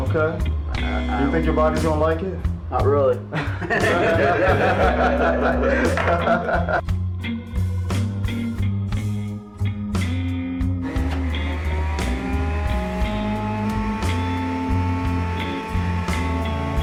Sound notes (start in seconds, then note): 3.2 laughs; 10.8 juicer whirs; 11.2 blues music